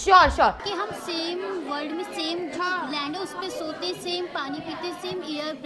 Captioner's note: speaks foreign language